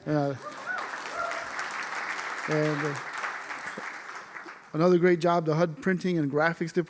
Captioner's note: applause